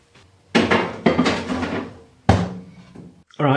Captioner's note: bang bang clunk